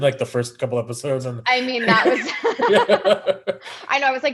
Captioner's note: laughing